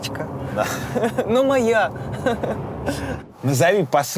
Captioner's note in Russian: смеётся